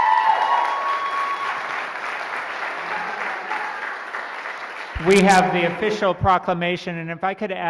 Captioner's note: cheering and applauding